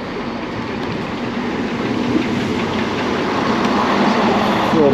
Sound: train approaching

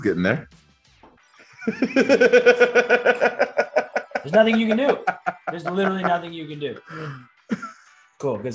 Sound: laugh

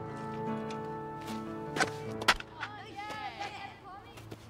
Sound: baseball Bat Cracks

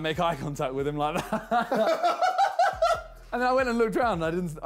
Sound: JJ laughs

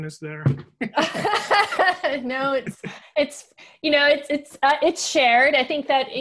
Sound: laughter

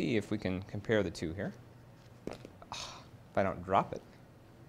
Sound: sighs

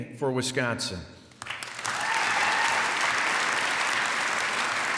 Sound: applause

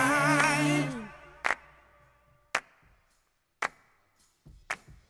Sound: hands clapping

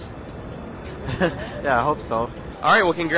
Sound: chuckles

